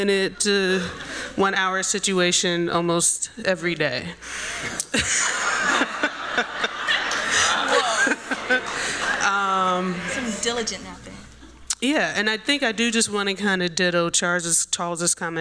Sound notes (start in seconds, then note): 4.6 laughter